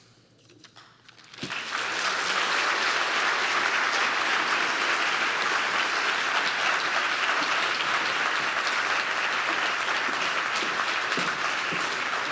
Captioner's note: applause